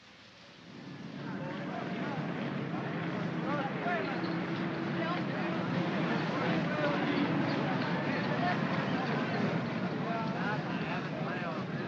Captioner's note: vehicle rumbles